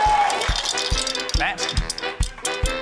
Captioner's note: cheering, applause; coins rattle